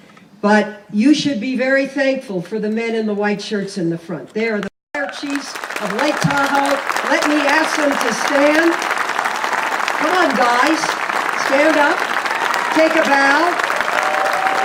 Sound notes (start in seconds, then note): 4.9 applause